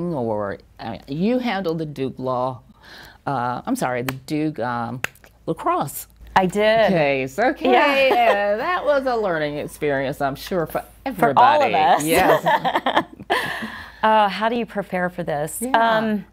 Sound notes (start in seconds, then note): 12.1 chuckles